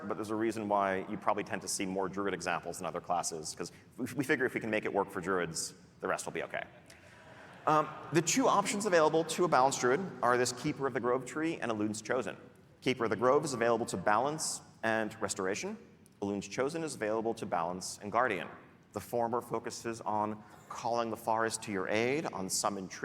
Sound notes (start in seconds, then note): none